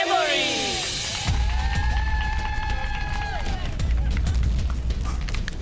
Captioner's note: cheering